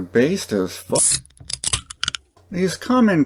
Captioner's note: beer opening sound